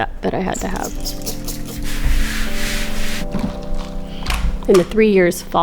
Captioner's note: bottle spraying